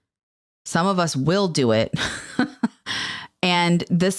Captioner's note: chuckles